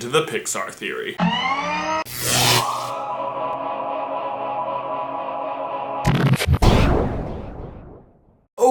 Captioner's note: electronic zapping and fusing noises